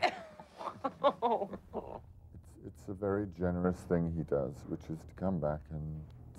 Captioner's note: laughing